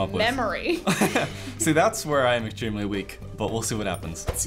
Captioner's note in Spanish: Risas